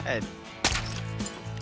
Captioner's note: gunshot